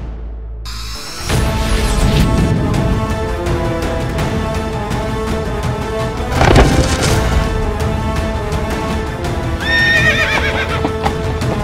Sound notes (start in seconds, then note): 9.6 horses neighing